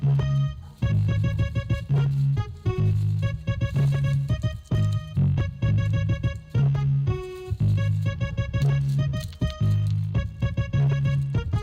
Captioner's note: munches aggressively